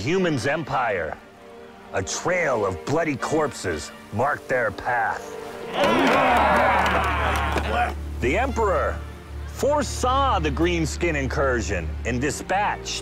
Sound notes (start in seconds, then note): 5.6 yells